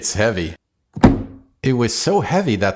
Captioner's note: thud!